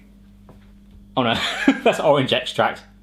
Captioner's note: laughs